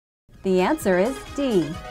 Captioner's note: female announcer speaking